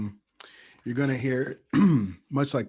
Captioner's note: clears throat